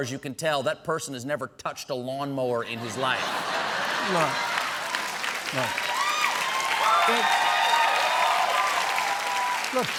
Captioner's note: cheers and applause; laughter